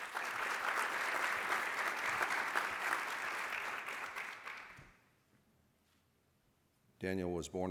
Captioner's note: applause